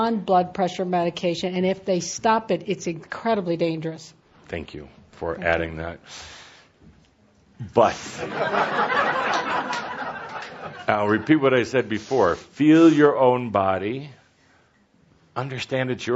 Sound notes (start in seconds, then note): 8.1 laughter